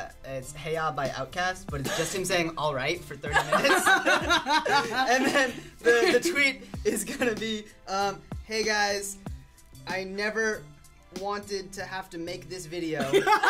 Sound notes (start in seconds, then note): 3.3 laugh